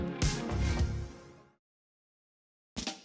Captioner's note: whoosh